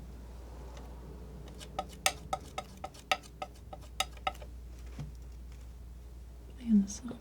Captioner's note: scissors snipping